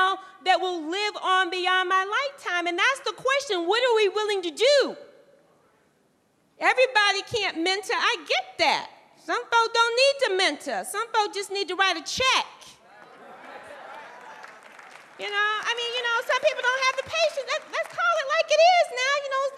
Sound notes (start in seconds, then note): 12.9 audience laughing; 13.5 applause